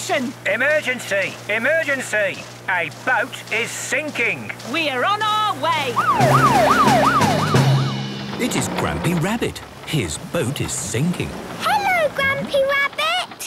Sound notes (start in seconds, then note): 5.6 siren wailing